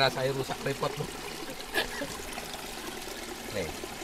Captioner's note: laughs